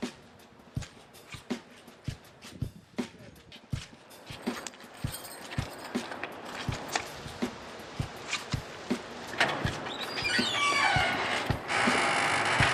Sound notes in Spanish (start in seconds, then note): 4.2 sonido de llavero; 9.3 sonido de visagras de puerta